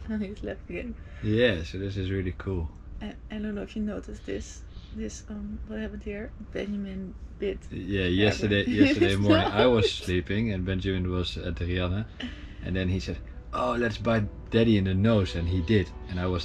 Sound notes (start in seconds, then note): 7.8 laughs